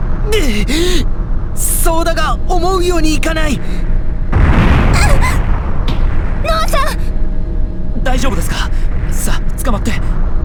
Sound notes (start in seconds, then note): 4.9 panicked cry